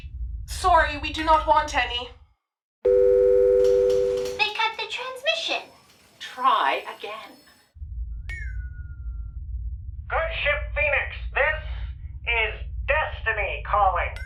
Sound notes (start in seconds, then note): 2.8 dial tone; 8.1 ship sounds